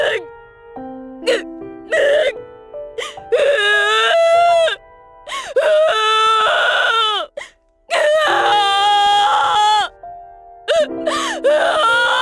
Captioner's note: louder sob; sobbing a storm